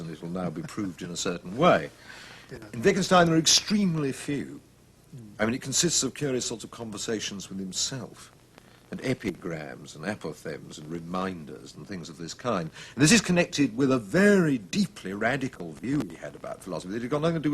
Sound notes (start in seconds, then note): 1.9 laughs